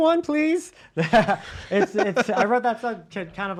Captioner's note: laughs